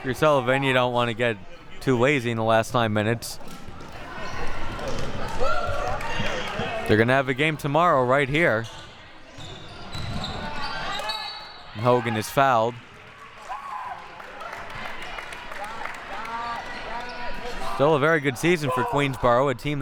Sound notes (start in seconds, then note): 3.6 audience chattering and yelling; 13.3 audience applauding